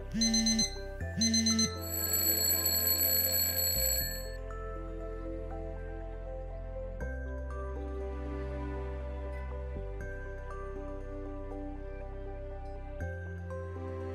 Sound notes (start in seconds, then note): 1.1 alarm blaring; 2.2 alarm ringing; 5.9 thoughtful music